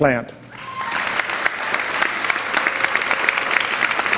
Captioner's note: applause